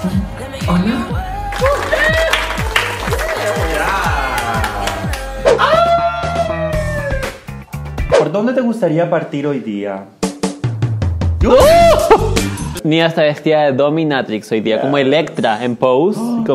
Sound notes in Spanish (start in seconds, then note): 1.4 aplausos; 12.0 risas